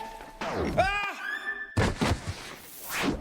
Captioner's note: yell